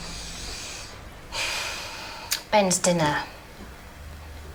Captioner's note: sighs